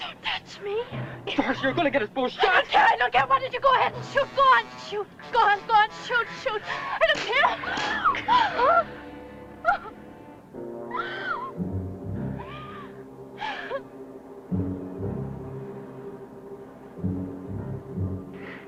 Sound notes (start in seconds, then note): 7.7 slaps; 10.5 she cries - worrying music